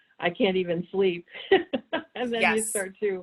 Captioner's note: laughs